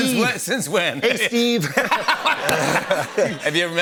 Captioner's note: laughter